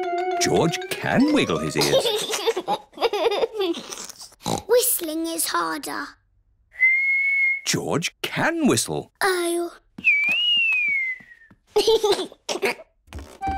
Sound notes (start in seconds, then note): 1.2 giggles; 4.3 snorts; 6.7 whistling; 10.1 whistling and giggling